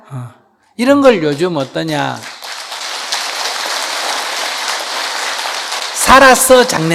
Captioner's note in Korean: 청중 박수